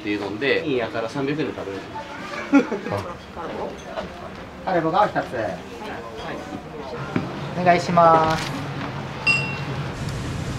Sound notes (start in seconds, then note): 2.3 laughs